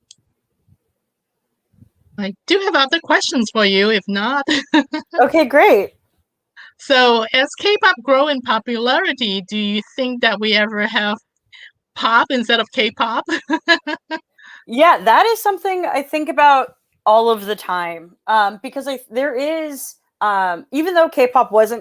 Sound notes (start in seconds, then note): 13.2 laughs